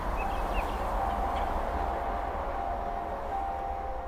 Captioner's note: ocean wave sound and birds chirping